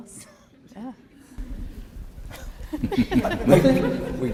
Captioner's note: laughing